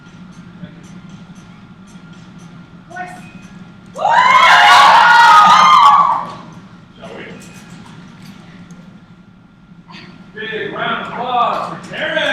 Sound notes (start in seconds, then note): 4.0 cheers